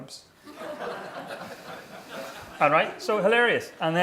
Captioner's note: laughing